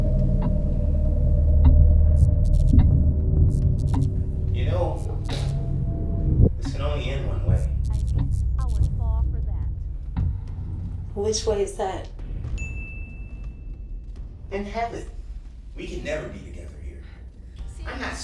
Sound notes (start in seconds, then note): 0.3 clock ticking; 0.3 eerie music; 12.5 bell rings